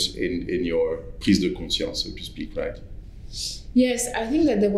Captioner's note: french